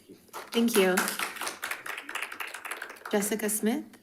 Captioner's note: audience applauding